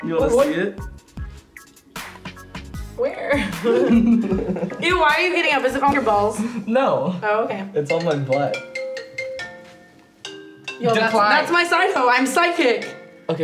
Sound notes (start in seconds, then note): 3.3 laughing; 9.0 phone ringing